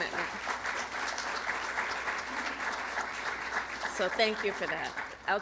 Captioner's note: applause